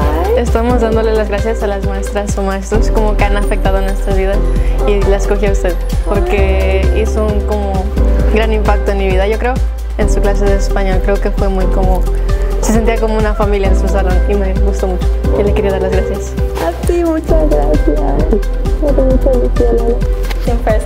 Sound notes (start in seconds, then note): 1.1 student speaking Spanish; 6.1 student continues speaking Spanish; 11.7 student continues speaking Spanish; 16.8 teacher speaking Spanish